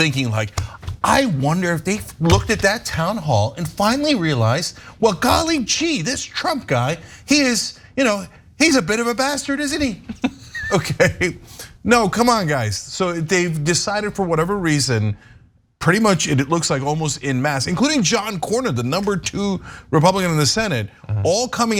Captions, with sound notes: thinking, I wonder if they looked at that Town Hall and finally realize, well, golly G, this Trump guy, he's a bit of a bastard, isn't he? >> [LAUGH] >> Okay, no, come on, guys. So they've decided, for whatever reason, pretty much, it looks like, almost en masse, including John Corner, the number two Republican in the Senate,